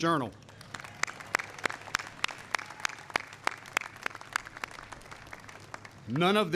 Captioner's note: applause